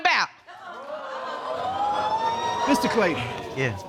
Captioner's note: audience whoops